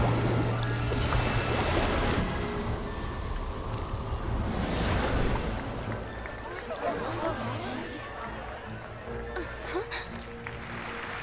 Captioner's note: applause